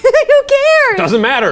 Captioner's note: giggles